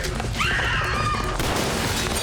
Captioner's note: women scream